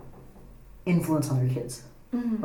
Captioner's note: none